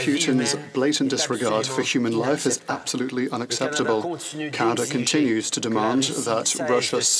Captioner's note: speaking French